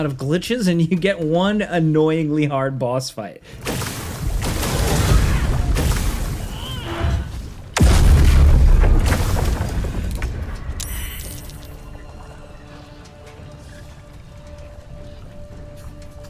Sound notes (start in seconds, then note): 7.1 player groans; 12.0 tense music